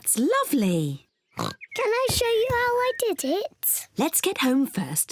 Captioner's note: oinks